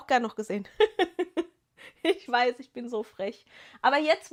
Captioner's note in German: gelächter